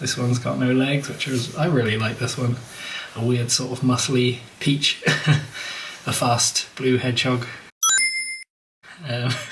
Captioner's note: gling!